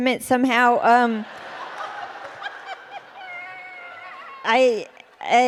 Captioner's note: laughter